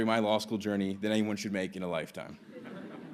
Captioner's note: laughter